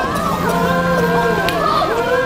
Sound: helicopter whirring

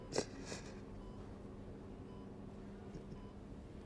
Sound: sniffling

